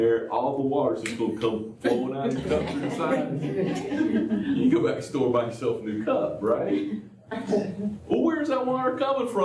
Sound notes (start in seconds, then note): 2.2 laughter